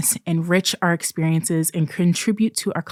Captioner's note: none